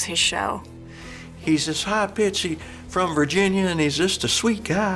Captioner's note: in a southern accent